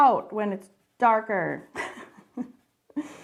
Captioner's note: laughs